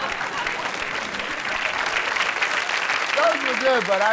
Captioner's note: audience laughs; audience applauds